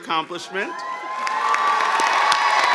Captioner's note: cheers and applause